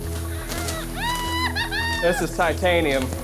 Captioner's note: laughing